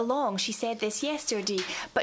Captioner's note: speaking French